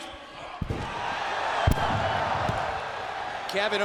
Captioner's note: crowd cheering